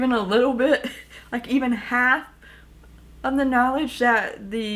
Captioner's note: chuckles